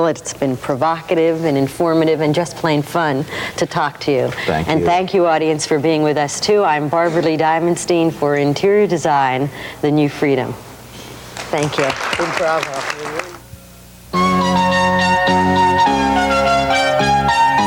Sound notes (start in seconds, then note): 11.3 audience applause; 14.1 bright, cheerful music